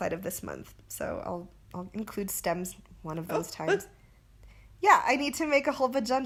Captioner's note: gasps